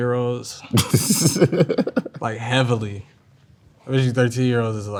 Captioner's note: laughs